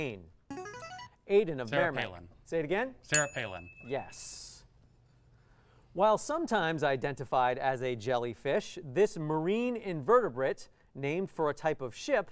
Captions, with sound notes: [player buzzer] Aiden of-- Sarah Palin. --Merrimack. Say it again? [ding] Sarah Palin Yes. While sometimes identified as a jellyfish, this marine invertebrate named for a type of ship